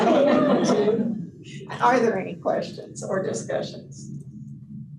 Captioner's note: laughter